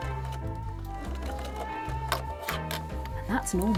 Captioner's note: sewing